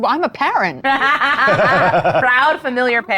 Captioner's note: laughing